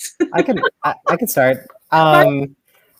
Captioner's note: laughing